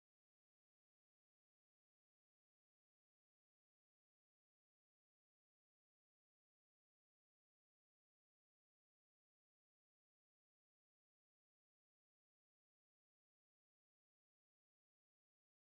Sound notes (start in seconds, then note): none